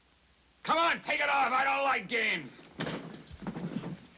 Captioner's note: shouting